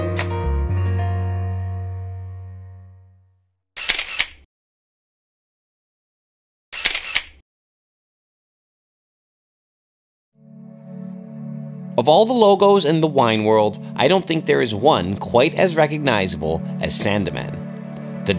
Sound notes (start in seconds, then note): 3.8 shutter clicks; 10.9 soft music